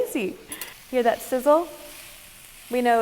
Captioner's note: meat sizzling